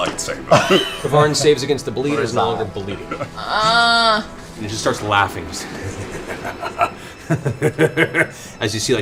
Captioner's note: laughs